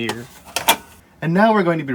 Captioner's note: hard drive clangs as it's pulled out